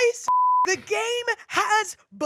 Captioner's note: beep